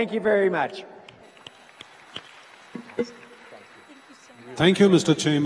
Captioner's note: audience applauds